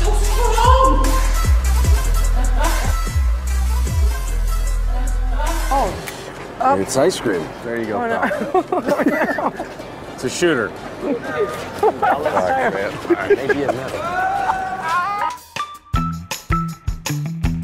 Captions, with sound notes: - It's cold. - It's ice cream. There you go. [laughing] It's a shooter. - All right. Maybe it' melted.